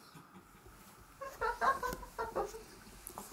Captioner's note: laugh